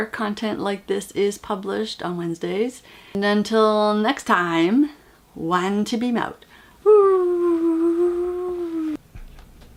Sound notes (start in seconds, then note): 6.9 whooo